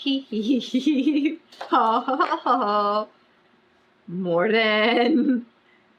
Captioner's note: laughs; laughs